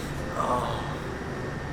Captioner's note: sexy moan